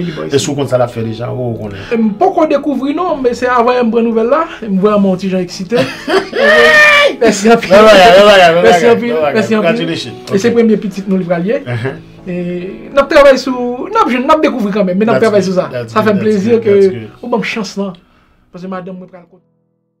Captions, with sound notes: Do you know what she's having? I don't know yet. I just got the news. I 'm kind of excited. (LAUGHING) Thank you so much -Its a beautiful thing -Congratulations This will be my first baby We will find out. We are working on it. -That's good. That's good. I am happy that you gave me a chance because my wife...